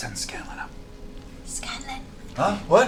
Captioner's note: whispers